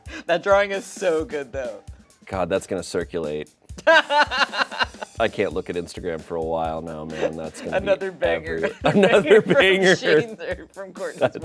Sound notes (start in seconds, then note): 4.3 crew laughing